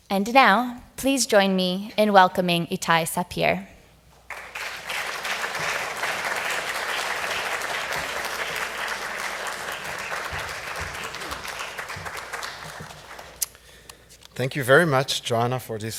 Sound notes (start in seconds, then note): 4.5 audience applause